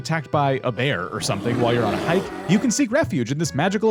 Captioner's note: bear growling